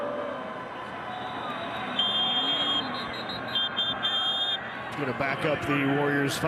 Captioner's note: referee blows whistle